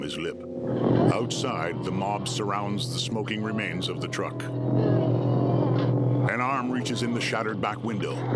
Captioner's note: creatures wailing